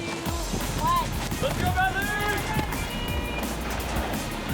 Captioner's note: cheering